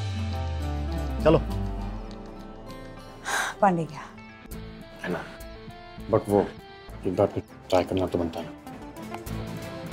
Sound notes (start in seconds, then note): 3.1 Sakshi sighs